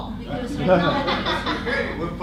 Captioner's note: laughter